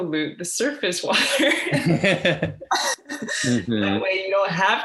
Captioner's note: laughing